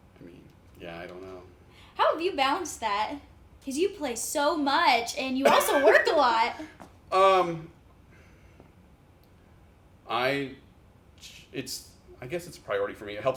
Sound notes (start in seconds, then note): 5.4 chuckles